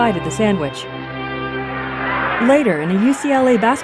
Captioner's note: crowd cheering